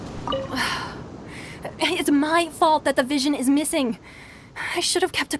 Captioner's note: sigh